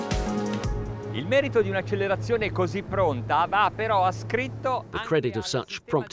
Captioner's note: speaking foreign language